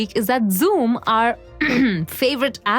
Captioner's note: ahem